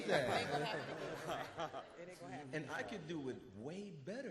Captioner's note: all laugh